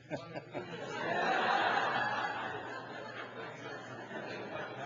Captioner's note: audience laughing